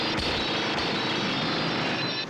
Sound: distant gunfire

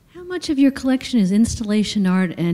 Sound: voiceover

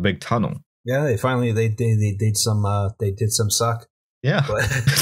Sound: laughter

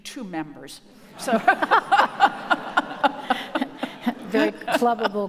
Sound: audience laughing

